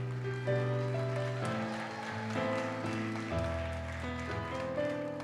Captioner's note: audience cheers and applauds